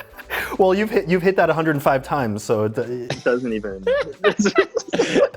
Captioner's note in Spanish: Risas; Risas